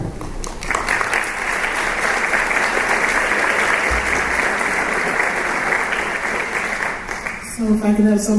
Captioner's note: applause